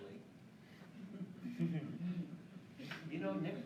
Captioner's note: laughing